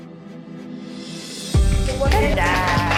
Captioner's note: moms cheer